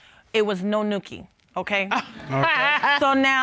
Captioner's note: judge laughs